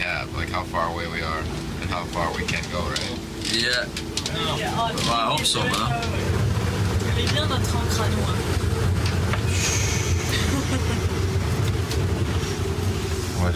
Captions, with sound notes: like how far away we are and how far we can go, right? - Yeah, I hope so, man. (speaking french)